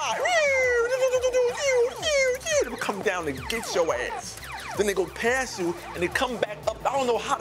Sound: mimics shooting sounds

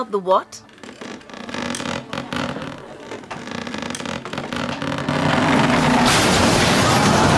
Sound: loud creaking; crashing

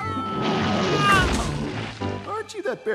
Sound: screaming; thudding

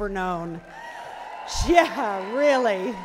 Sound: cheering

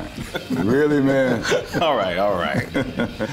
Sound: laughter

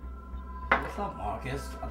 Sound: bottle clinks

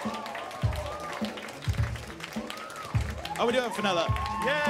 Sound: applause

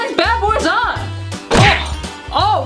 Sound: cartoonish whacking

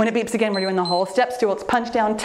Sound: timer beeps

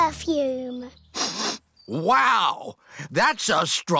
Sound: sniffs

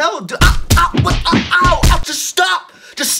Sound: repeated punching

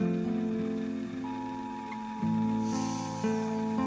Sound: radio beeps; man sighs

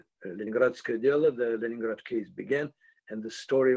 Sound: russian

